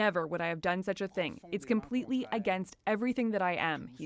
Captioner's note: speaking French